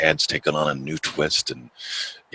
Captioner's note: none